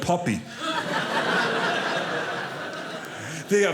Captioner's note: audience laughing